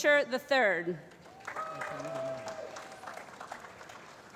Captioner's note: applause